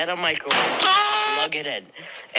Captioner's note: screams in agony